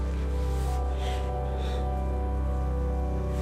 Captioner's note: sniffles